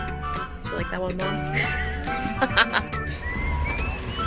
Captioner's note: laughing